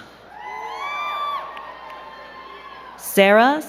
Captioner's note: crowd cheering and clapping